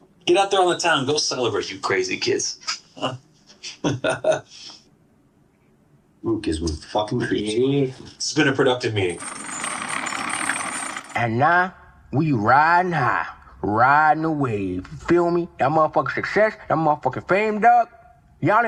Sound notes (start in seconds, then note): 2.6 chuckles; 5.0 awkward silence; 9.1 chain rattling